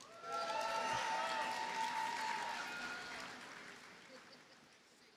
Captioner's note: audience cheers and applauds